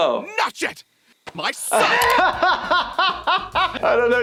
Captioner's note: laughing